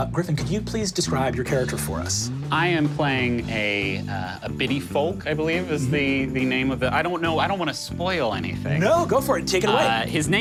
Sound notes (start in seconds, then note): none